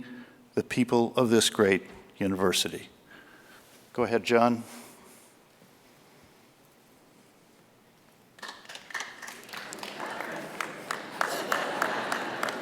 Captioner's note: applause